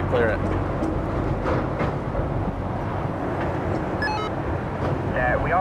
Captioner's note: bridge rattles; walkie talkie beeps